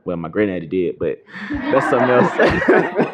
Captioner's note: laughter